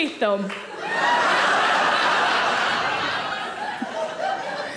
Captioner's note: audience laughing